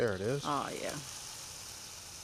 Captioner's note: pan sizzling